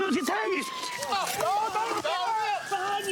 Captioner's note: yells